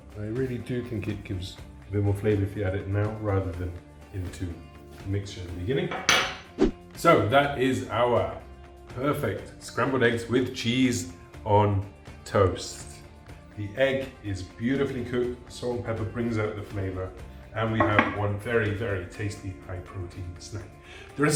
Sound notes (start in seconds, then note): 5.9 dish clanks